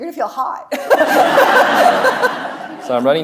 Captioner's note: audience laughing; laughing